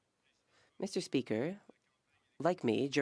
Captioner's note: speaking French